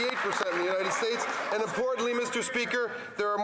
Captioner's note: some Applause